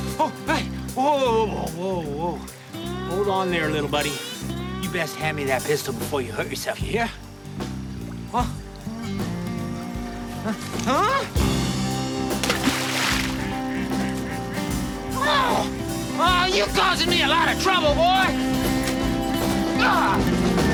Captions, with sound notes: Oh, hey! Whoa, whoa, whoa! Hold on there, little buddy. You best hand me that pistol before you hurt yourself, ya hear? Huh? (gasps) (groans) Oh, you're causing me a lot of trouble, boy!